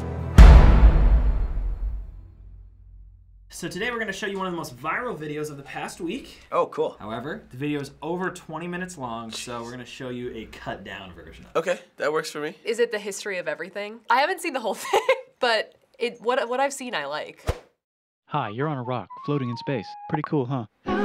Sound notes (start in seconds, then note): 0.0 dramatic chord; 14.7 giggling; 17.3 silence